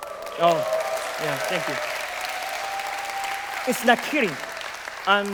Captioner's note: applause